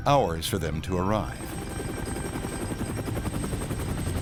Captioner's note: helicopter whirring